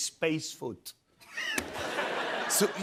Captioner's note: laughter